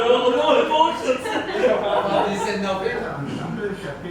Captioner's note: group chatter